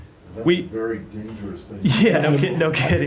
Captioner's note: laughter